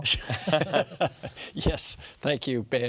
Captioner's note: giggling